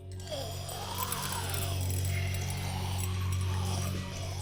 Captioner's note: Sandra snarling